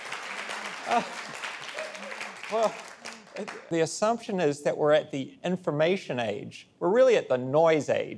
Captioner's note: applause